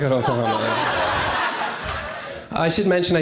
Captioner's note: crowd laughs